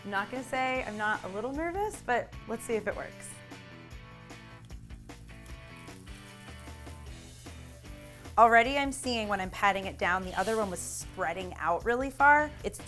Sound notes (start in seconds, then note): 4.1 pan sizzles